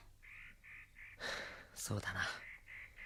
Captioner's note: sigh